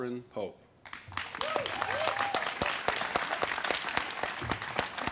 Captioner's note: audience cheers and claps